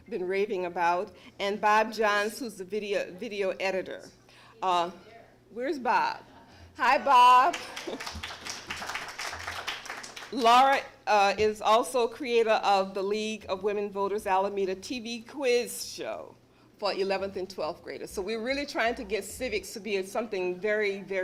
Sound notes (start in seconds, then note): 7.4 applause